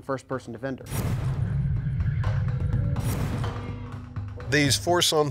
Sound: foreboding sound

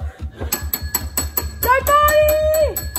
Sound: doorbell chimes

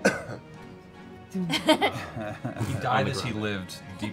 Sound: laughing

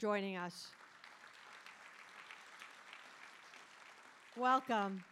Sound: audience applauding

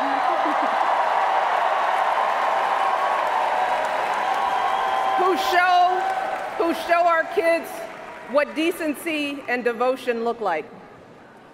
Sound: cheers, applause

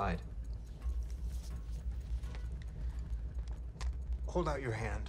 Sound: watch ticking

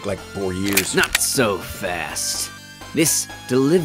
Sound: gun clicking

